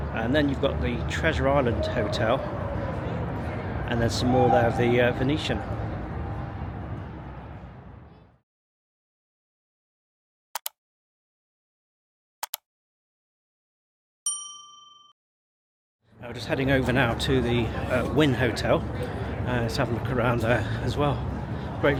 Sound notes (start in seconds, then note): 10.5 computer mouse clicking; 14.2 bell dings